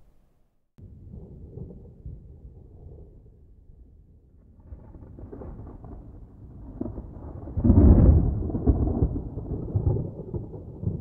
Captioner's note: sounds of a thunderstorm can be heard